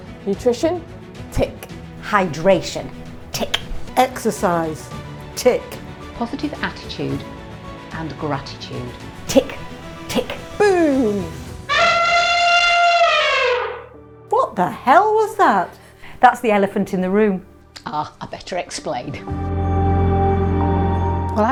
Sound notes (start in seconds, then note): 11.6 elephant noise